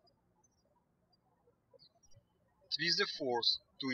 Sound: birds chirping

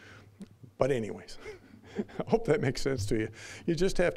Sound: chuckling

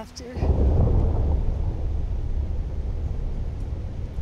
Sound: thunder rumbles

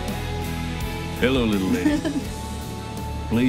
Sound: chuckles

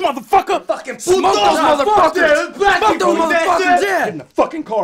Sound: yelling

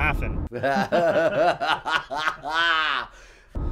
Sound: evil laughing

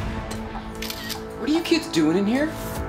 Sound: camera shuttering

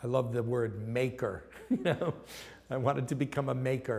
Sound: laughs

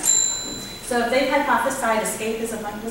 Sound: bell rings

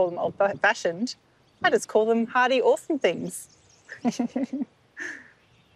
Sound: laughs

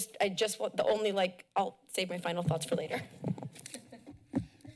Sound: laughs

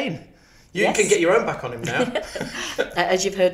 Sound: chuckles

